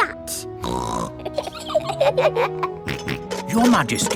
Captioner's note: snorts; both giggle; snorts